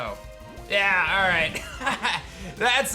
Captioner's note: chuckles